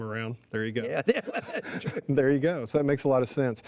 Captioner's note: laughing